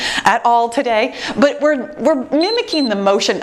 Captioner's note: timer beeps